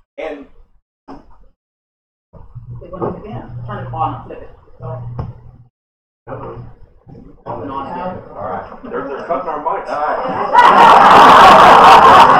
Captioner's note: laughter